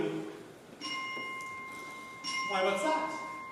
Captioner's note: A bell chimes off; the bell continues